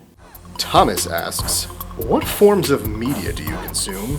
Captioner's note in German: Voice-over